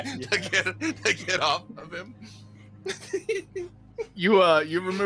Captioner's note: laughs